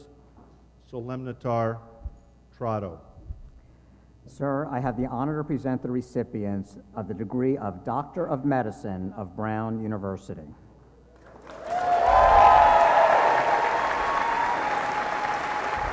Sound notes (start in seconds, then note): 11.2 applause